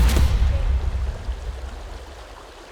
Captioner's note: water splashing